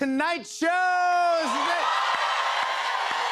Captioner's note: cheers and applause